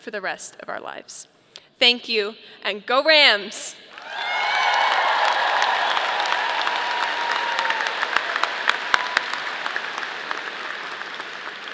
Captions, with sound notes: for the rest of our lives. Thank you, and go Rams! (audience cheering) (audience applauding)